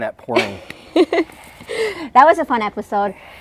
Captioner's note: laughing